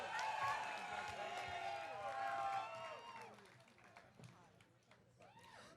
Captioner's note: audience cheering